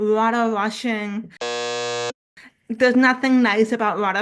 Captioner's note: buzzer sound